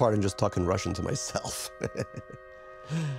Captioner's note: laughing